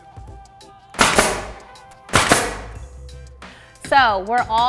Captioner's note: nail gun fires